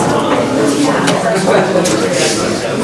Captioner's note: loud murmuring